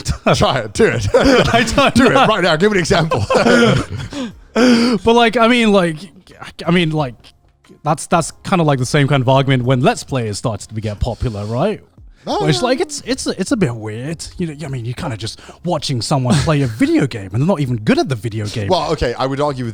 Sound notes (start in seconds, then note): 0.0 all laughing